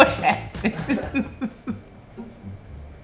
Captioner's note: laughing